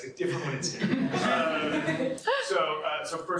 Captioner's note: laughter